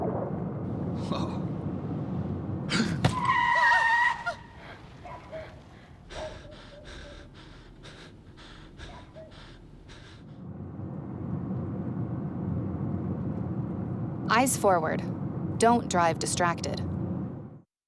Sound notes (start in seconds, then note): 9.6 wind blowing